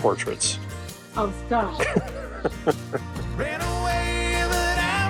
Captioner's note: chuckling